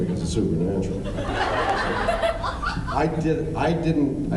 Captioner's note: laughs